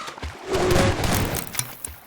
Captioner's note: aaaaa